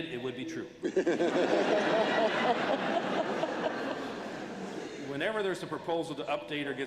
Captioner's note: laughter